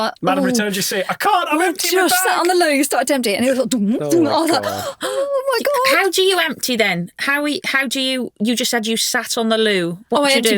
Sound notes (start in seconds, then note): 4.0 vocalising turbulence